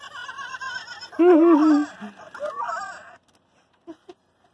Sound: laughter

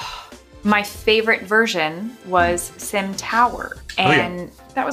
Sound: sighs

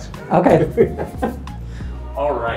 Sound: both chuckle

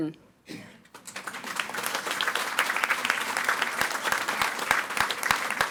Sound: audience applauding

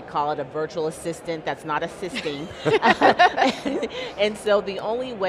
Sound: panel members laugh

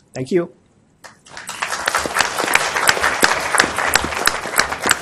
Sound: applause

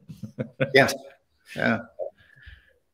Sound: laughter and approval

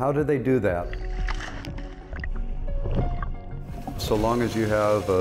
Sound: water splashing

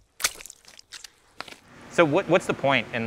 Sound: water sloshing

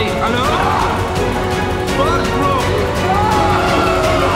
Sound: screaming

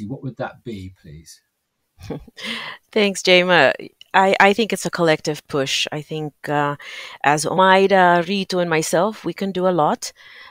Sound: laughs

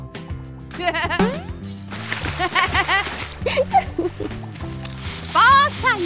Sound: laughs

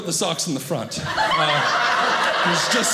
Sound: audience laughing

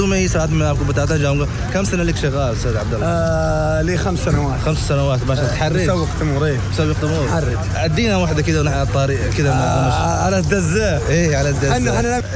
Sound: talking in Arabic

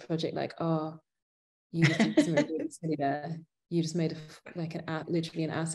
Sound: laughing

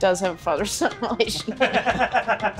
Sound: laughing

